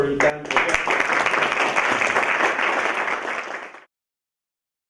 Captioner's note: applause